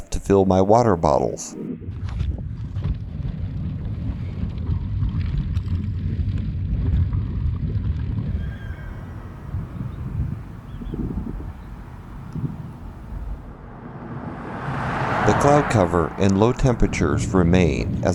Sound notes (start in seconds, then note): 9.6 farm sounds